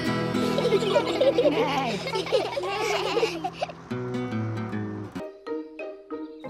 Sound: all giggle

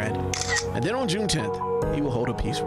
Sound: picture snaps picture

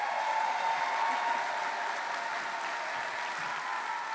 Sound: cheering; applause

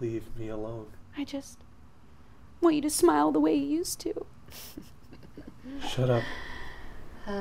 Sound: chuckles

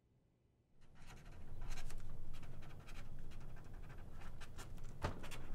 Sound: pen scratching on paper

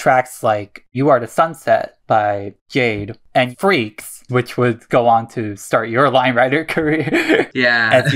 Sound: laughs

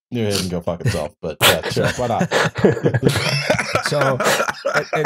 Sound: laughter

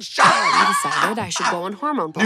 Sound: Katya laughs

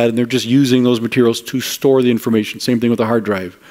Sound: none

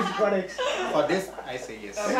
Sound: laughing

